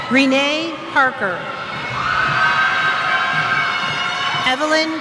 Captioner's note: cheers